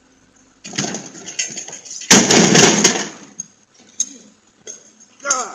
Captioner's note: package clanks